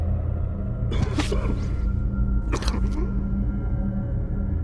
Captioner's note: stabbing sounds